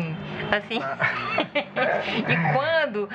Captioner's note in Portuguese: risadas